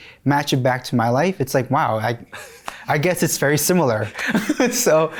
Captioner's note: chuckles